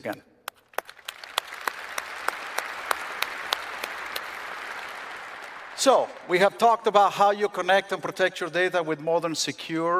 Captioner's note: applause